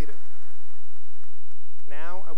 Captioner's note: applause